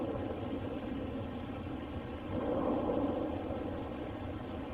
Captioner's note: distant banging